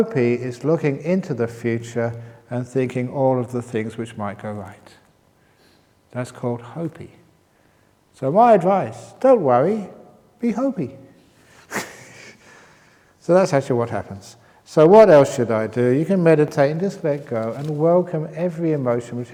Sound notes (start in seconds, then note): 11.7 chuckles